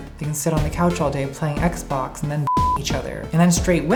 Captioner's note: beep